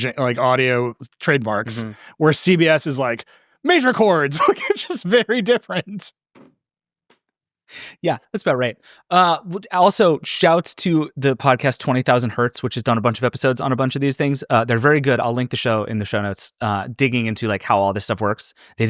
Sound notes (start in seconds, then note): 4.3 laughing; 6.4 both laughing